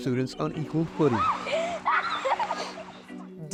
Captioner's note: children laughing